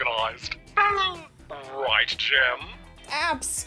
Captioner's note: laughs